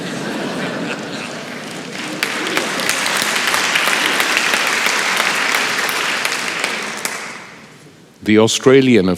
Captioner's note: laughter and Applause